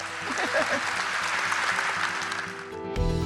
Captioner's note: cheers and applause